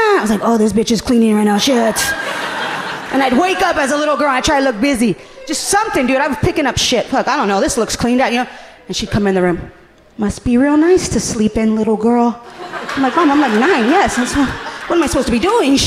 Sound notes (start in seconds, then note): 1.8 audience laughing amusingly